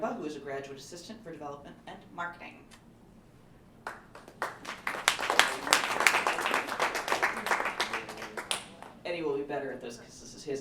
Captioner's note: applause